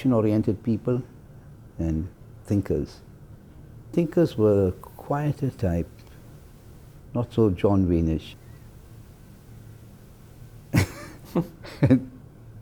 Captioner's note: laugh